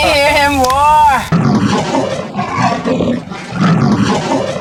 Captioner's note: roaring